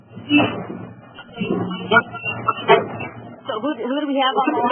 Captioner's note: audio feedback